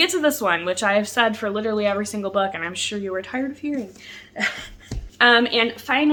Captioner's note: laughs